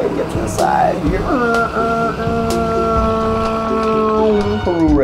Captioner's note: train noises